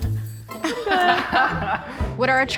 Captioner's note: laughter